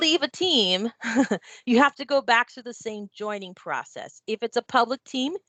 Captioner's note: chuckles